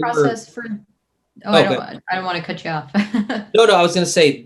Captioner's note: chuckles